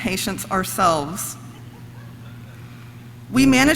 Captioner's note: audience laughs